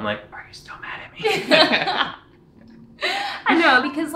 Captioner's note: laughing